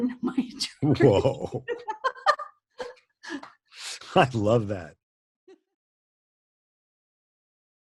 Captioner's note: laughs